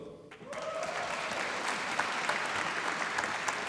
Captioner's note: applause